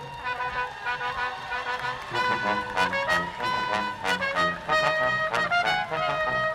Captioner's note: audience applauding; brass quintet music